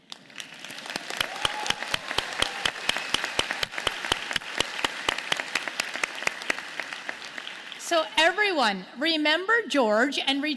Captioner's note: applause